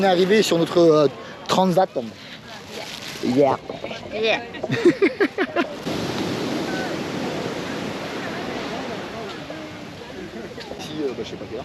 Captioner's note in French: Rires